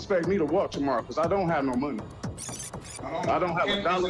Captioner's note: tape whirs